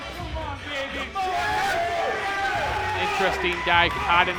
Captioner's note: crowd cheering